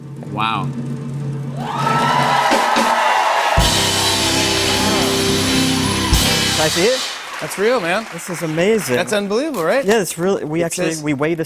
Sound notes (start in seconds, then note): 1.4 cheers and applause